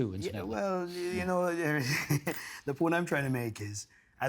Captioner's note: laughing